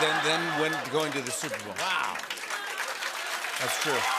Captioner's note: laughter; applause; cheers and applause